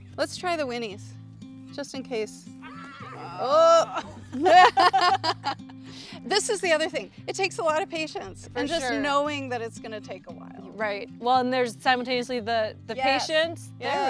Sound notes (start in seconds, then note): 2.6 horses neighing; 2.7 women laughing